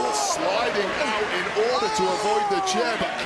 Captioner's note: audience cheering